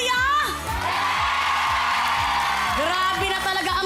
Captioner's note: audience cheering